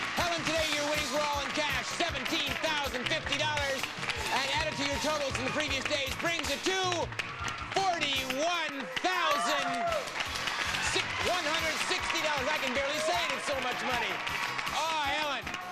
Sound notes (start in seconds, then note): 10.0 audience cheering